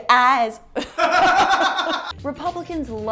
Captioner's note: background laughter